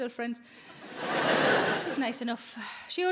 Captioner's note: audience laughing